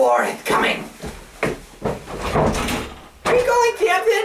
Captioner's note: Sampson loudly rushes out of the room